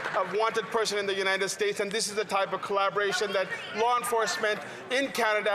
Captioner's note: some Applause